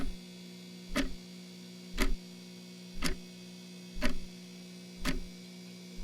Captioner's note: clock-ticking continues